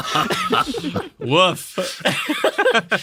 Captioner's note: cracking up